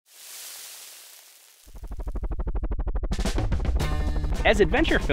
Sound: meat sizzling

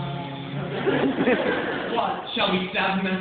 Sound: laughter

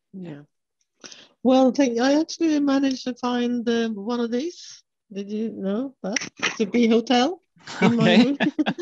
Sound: laughing

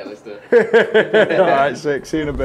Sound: guys laugh

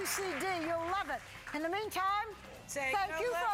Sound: applause

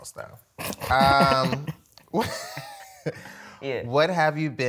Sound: laughs

